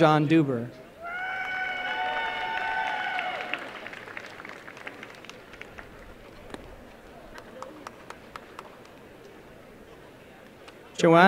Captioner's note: applause